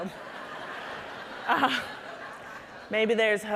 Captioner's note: audience laughing